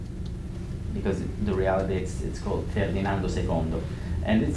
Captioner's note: italian